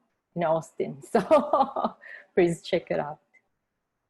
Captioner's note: laughter